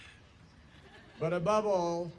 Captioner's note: laughter